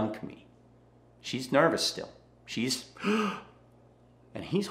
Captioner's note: gasps